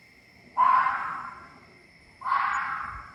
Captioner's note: fox cries in the distance